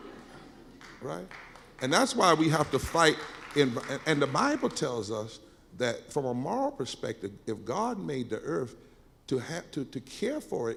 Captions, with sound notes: Right? (scattered clapping) And that's why we have to fight. And the bible tells us that from a moral perspective, if God made the Earth, to care for it,